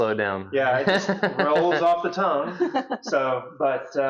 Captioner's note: laughs